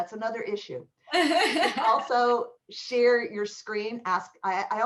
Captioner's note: laughter